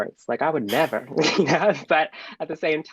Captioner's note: laughing